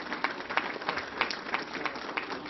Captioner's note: applause